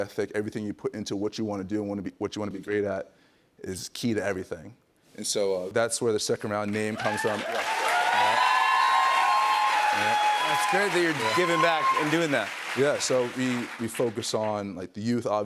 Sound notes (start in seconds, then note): 6.8 cheers and applause